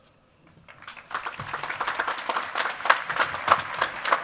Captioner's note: applause